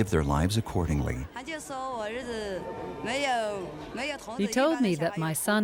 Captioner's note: speaking in foreign language